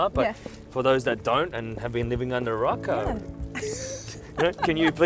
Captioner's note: laughs